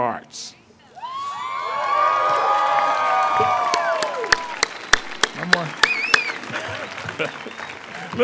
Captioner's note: applause